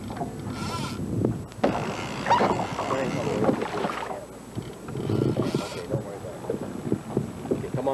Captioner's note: water sounds